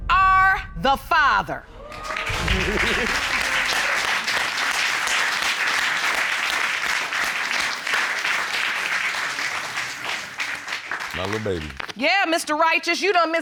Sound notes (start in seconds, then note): 2.1 audience exclaims, applauds; 2.2 laughs